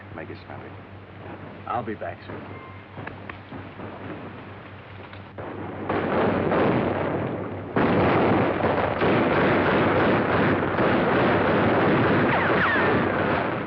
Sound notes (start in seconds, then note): 2.9 gunshots